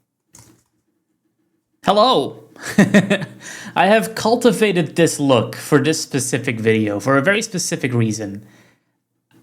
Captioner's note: laughs